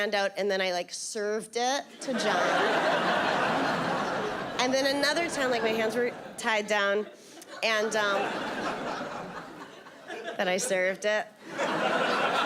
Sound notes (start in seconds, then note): 2.0 audience laughing